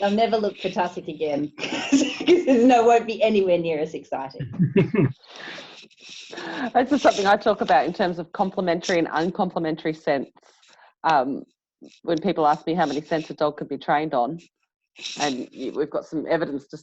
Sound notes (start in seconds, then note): 4.5 participants laugh